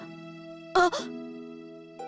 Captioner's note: gasp